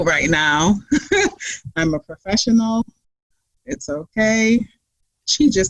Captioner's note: laughs